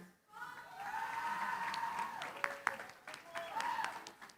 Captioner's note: cheering, applause